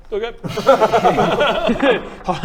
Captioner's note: over-confident laughter